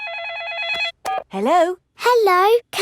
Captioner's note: phone rings